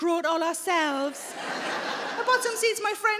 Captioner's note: audience laughing